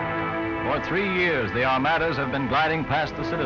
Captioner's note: voiceover